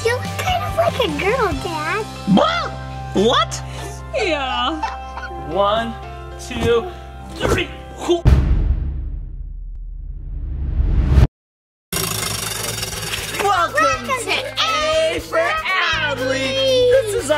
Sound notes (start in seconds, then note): 8.2 bass drum beats; 11.9 wheel spinning